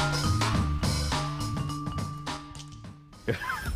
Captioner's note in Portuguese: Risada